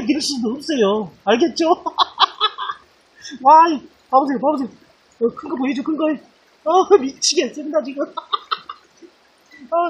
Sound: laughs

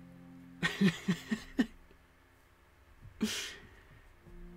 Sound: laughter

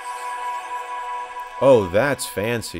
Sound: start Windows sound

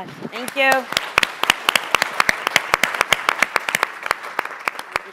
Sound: audience applauding

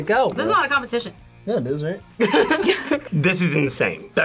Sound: laughs

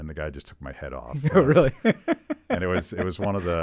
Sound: laughing

